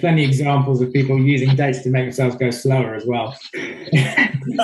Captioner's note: murmurs; all laughing